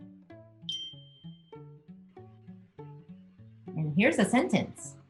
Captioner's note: bell dings